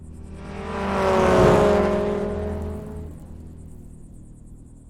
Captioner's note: car engine rumbling